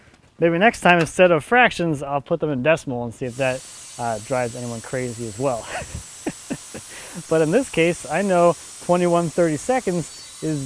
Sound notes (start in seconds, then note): 5.4 chuckles